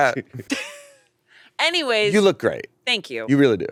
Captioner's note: chuckles